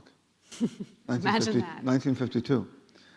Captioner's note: laughing